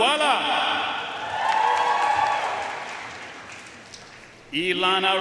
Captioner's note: audience cheering and applauding